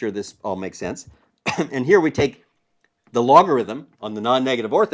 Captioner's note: cough